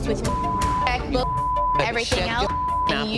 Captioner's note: beeping